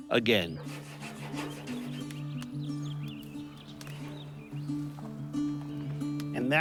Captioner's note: birds chirping; light guitar music